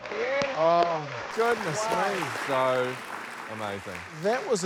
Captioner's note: cheers, applause